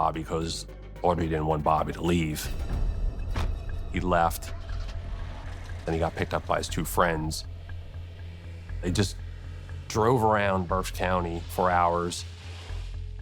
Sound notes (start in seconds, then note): 5.7 car engine starts